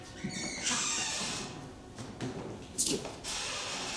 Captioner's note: door creaking